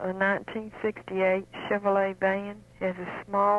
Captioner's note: radio program audio